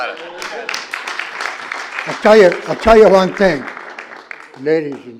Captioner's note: applause